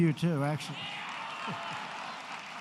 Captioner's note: applause